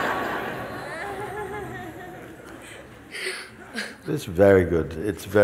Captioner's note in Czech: smích